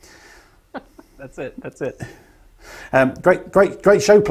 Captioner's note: laughing